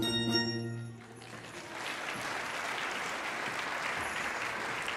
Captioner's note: audience applauding